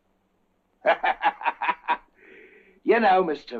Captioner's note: laughter